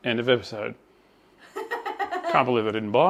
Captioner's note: laughing